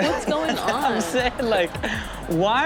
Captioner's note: audience laughs